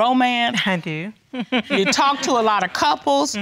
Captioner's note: chuckles